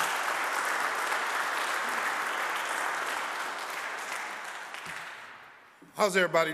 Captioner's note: audience applauding